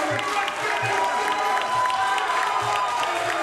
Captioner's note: applause